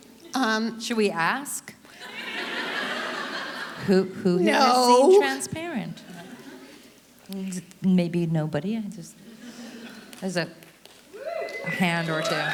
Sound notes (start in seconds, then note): 2.0 audience laughter; 11.2 audience applauding